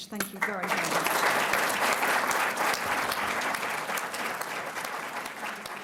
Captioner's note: applause